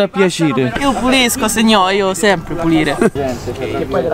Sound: in Neapolitan accent; in a foreign accent

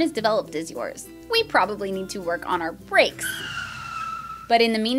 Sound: brake noise

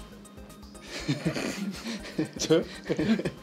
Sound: laughs

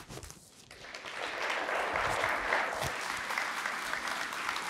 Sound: applause

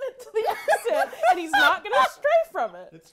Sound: laughing

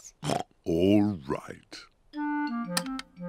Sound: oinks

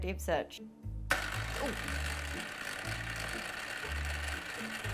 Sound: mixer whirring

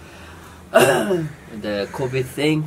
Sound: fake cough

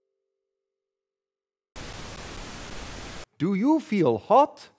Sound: sfx tv tuning

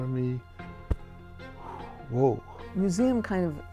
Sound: exhales

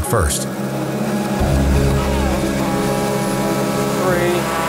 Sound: engine revving

